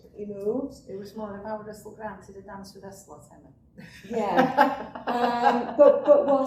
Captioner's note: laughs